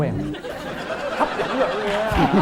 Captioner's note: laughing